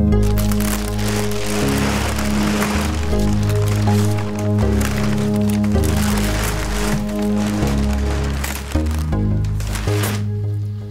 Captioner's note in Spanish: papel cruje